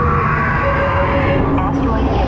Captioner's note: beeps